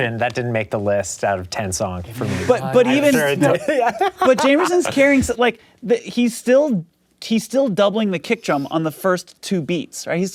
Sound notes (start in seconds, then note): 2.2 laughing